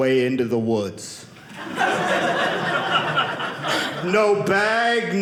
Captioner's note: audience laughing